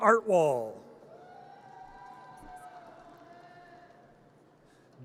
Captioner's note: audience cheers